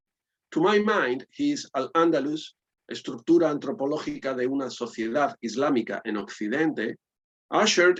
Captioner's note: spanish